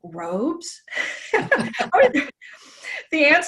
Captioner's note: both laughing